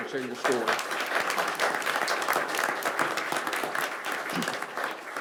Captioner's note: audience applauds